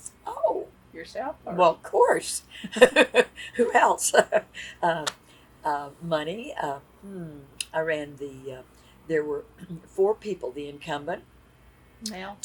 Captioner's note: laughs